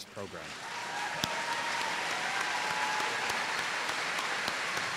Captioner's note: applause